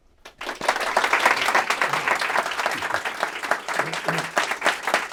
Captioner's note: applause